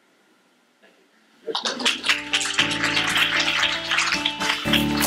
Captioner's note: applause